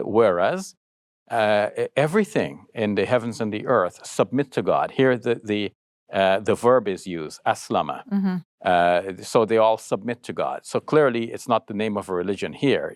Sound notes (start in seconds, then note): 7.3 speaking foreign language